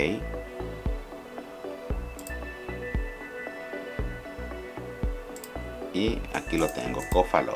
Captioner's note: clicking